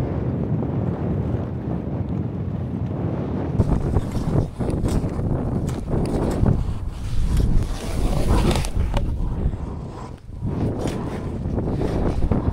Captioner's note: less pleasant sounds of the wind howling in the frame